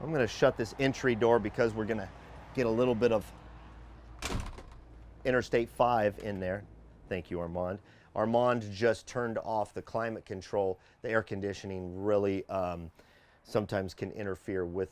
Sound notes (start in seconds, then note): 4.2 door clicking